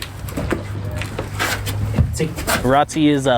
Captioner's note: boots scraping